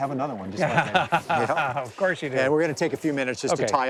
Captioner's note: laughing